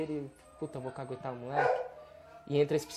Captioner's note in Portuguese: Cão latindo